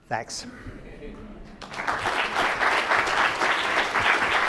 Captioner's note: crowd applauds